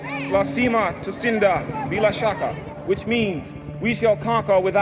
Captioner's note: speaking Swahili